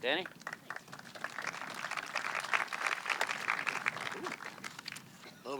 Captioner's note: audience clapping